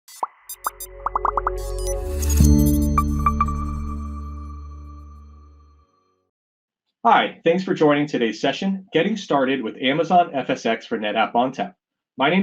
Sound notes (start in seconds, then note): 0.0 squeaks and blips